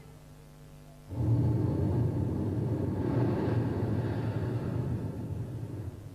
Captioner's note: shri mataji blows into the microphone